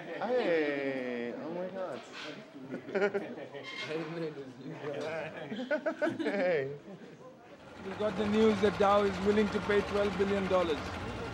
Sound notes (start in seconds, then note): 4.7 laughter